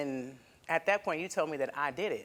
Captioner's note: none